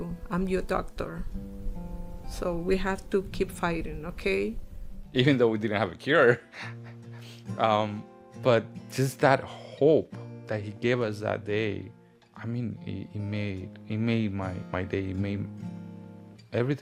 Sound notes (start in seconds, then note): 6.3 laughs